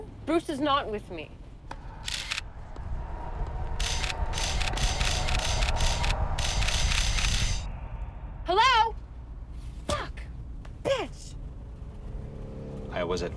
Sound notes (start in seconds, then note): 2.2 camera clicking